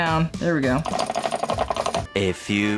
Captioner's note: metal clanging